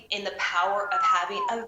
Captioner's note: whistles